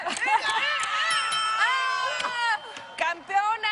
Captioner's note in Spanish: Ríe; Exclamaciones